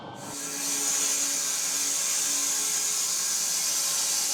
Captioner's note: saw whirring